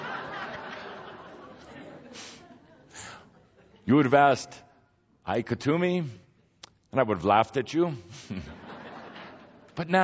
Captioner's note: much laughter; more laughter